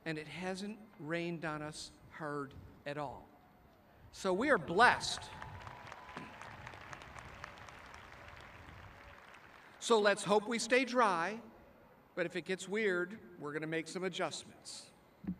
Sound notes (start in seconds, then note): 4.8 applauding